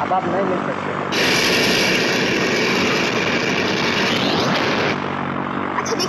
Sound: engine roar

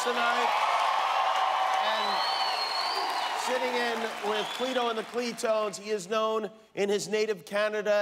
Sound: cheers and applause

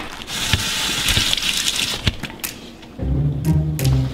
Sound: clattering; water running; suspenseful music

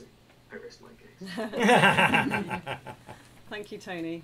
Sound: laughter

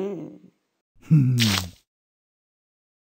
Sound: splat!

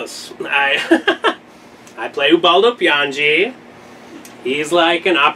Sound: laughs

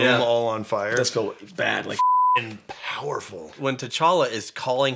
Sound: beeping

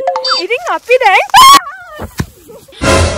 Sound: screams

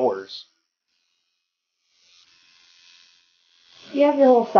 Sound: tattoo needle buzzing

